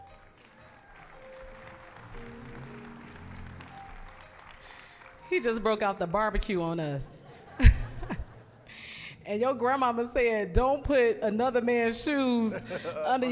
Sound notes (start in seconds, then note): 1.7 applause; 7.0 audience laughing